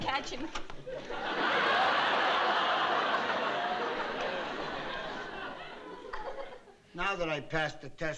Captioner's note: laughter